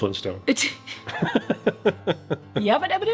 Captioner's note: laughing